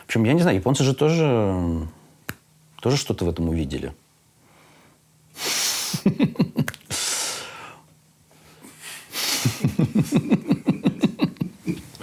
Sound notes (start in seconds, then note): 6.0 laughs; 9.4 and person outside the shot laugh